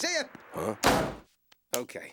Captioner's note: door slams